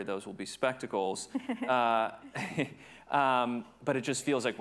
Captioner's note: chuckles